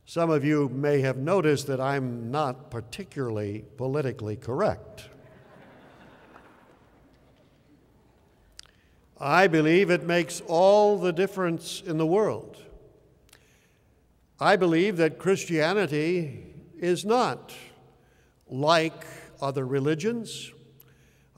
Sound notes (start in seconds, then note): 5.2 laughter